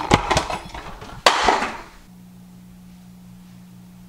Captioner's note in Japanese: 落下音